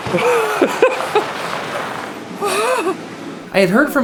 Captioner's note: laughing